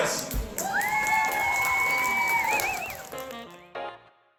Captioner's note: crowd cheers, whistles